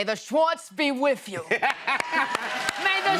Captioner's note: cheers and applause